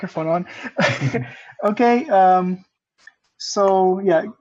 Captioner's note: laughter